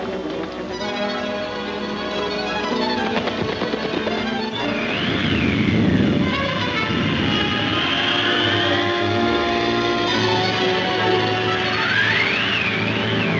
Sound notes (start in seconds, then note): 0.1 dramatic music; 2.8 hoof beats thudding; 4.6 wind whooshing; 6.1 suspenseful music; 7.8 wind blowing